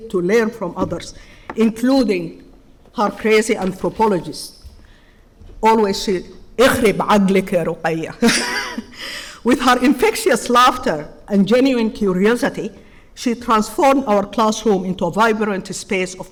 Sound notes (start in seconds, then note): 5.6 speaking in foreign language; 8.2 chuckling